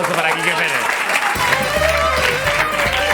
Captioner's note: applause and music